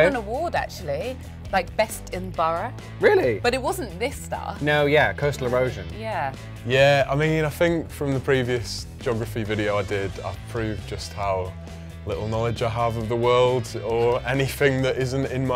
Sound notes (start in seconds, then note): none